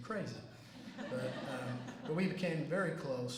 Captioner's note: laughter